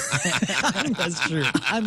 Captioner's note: laughing